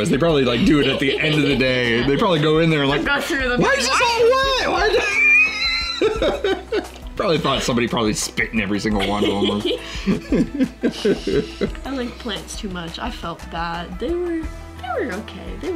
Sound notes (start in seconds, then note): 4.9 man laughing; 8.9 both chuckling